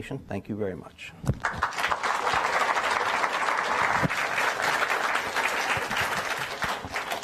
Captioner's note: applause